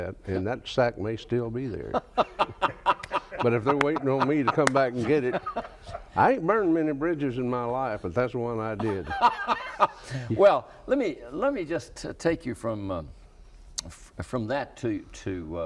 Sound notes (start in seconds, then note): 1.8 laughs; 8.8 laughs